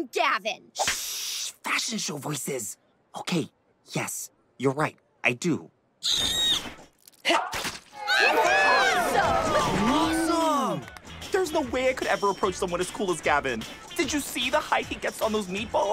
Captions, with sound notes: Shh! Fashion show voices. Okay, yes, you're right, I do. [squealing] [cheering] Awesome. There's no way I could ever approach someone as cool as Gavin. Did you see the height he gets on those meatballs?